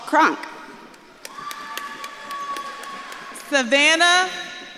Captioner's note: audience claps and cheers